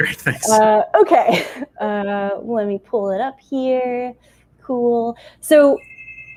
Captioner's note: door rings